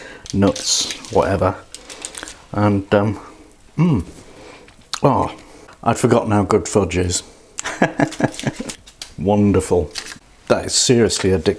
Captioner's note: laughs